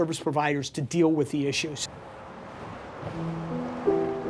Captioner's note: traffic on interstate; soft music